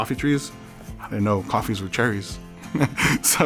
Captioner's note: laughs